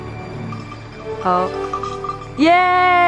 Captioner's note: bell clanging